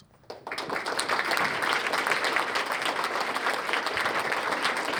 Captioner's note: applause